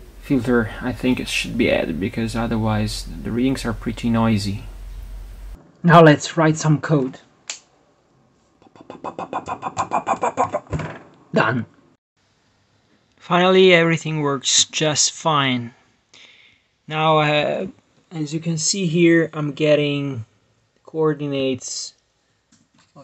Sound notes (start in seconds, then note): 7.5 finger bones snapping